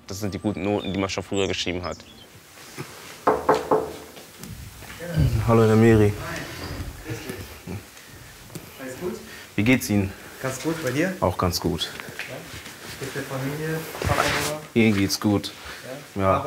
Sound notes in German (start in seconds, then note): 3.2 klopft